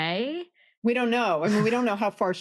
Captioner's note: laughs